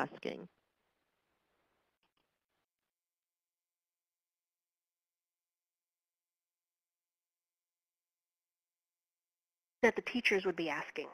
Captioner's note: pause